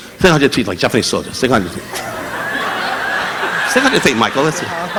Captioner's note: audience laughing; affirming